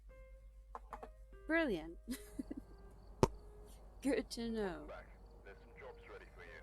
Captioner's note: laughs